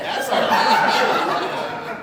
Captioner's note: audience Laughing